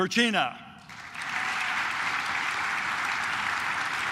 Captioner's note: claps